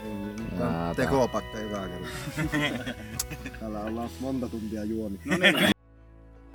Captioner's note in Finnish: naurua